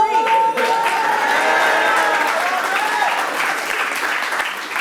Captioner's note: audience applauds